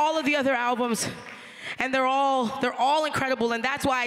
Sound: applause

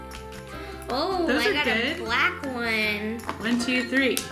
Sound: gasp

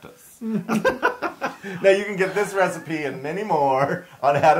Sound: laugh

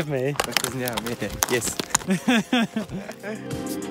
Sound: man speaks in Azerbaijani

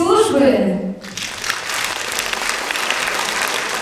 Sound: applause

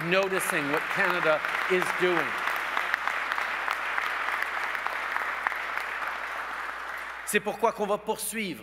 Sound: applause

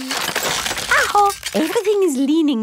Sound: house creaking

